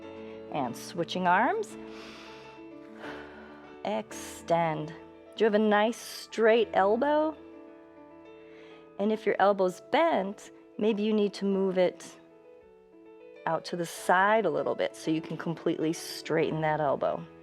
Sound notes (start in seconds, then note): 1.8 inhales and exhales